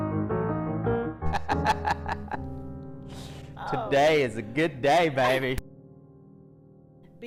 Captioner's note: laughs